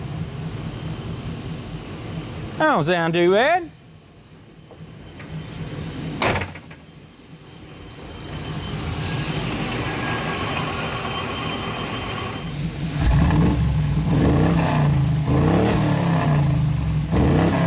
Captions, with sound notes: That don't sound too bad. (Engine Revving)